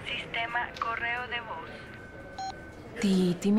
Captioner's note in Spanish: Bip